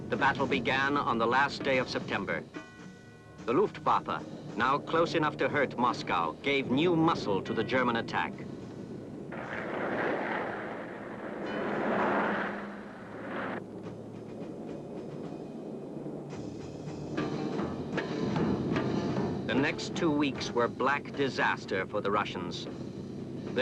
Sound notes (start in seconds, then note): 9.9 engine roaring; 14.5 wind howling